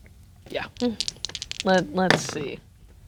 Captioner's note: dice rattling; dice rolling